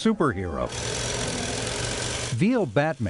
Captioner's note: quilting machine whirring